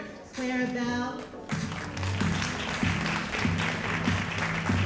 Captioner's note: audience applauding